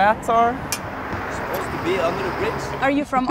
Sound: European accent

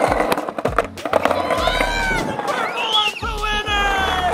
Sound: hollering

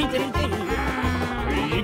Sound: groans

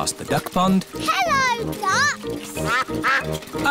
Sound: quacking

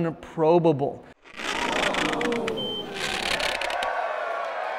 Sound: machine crackling

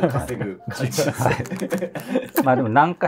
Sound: laughing

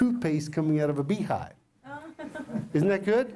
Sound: laughter

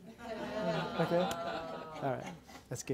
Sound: laughter

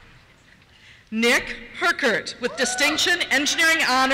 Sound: voiceover

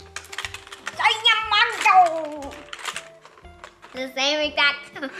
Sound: exclaims

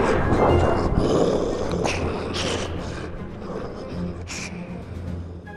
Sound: margore's voice fades into distance; gasp

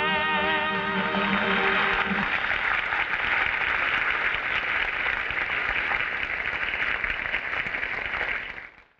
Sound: audience applauding

